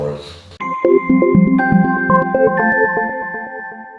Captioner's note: bells chiming